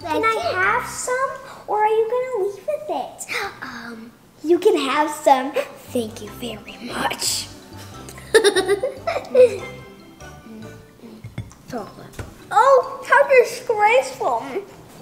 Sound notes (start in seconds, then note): 8.0 laughs